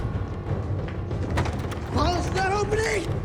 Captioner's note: intense dramatic music; door latch jangling